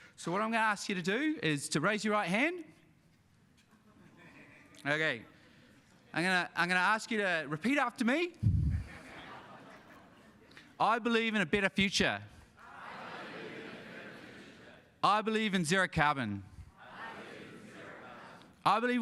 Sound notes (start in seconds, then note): 3.8 scattered laughter; 8.6 audience laughs